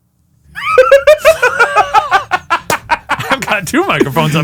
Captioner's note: both laughing